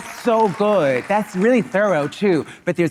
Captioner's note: audience laughing